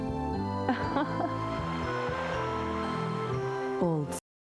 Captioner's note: laughter